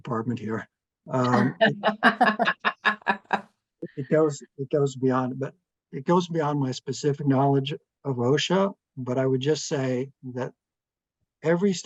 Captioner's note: laughing